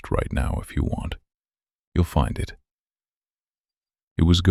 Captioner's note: short pause